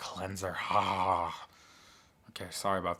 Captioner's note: makes drooling sound